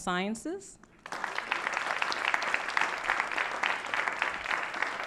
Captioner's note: applause